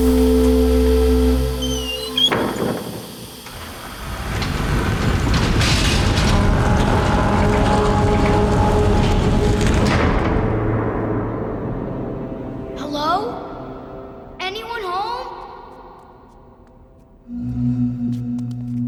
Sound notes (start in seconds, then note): 0.0 horns blowing; 1.8 clanking